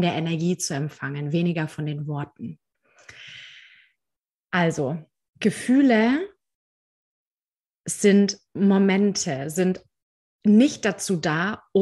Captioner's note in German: seuzft